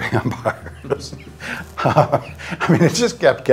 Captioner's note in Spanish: se ríe